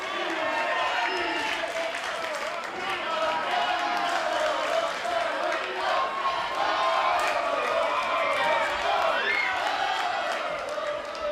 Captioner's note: cheers and applause; fans chanting